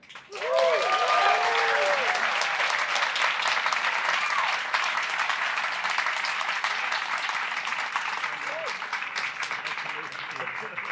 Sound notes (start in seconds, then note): 0.5 applause